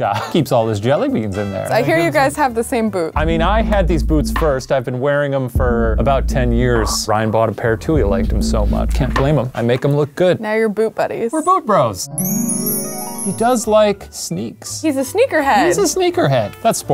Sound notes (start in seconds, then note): 12.0 magical chiming